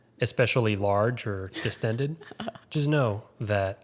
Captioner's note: laughing